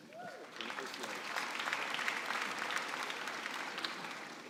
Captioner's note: applause